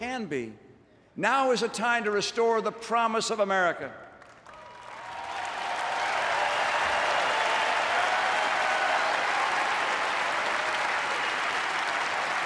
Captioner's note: applause